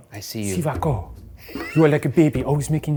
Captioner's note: speaks in foreign language